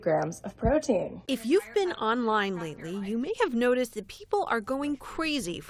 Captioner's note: voice-over